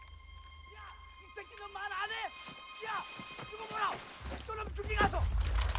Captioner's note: continuous Yelling in Korean